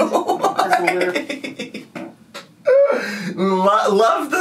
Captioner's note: laughing